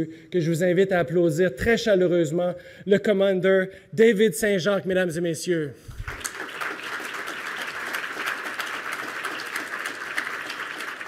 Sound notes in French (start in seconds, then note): 5.9 Applaudissements